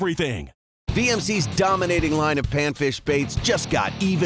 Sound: voiceover

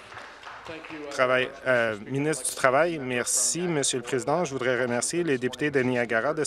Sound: some Applause

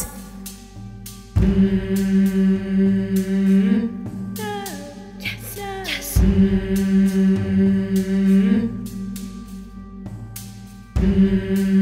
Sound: chorus humming in rhythm

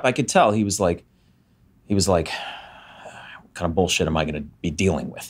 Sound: sighs

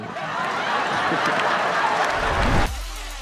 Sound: laughter

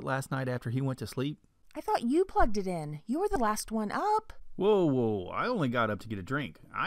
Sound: man's voice

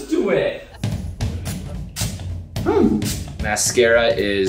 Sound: liquid spritzes

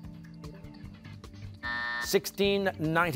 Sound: buzzer

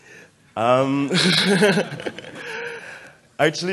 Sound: laughter

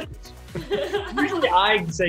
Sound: laughs

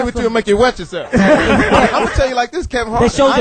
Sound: all laugh

